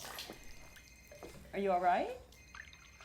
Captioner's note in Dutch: telefoon gaat